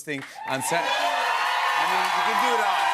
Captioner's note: cheers and applause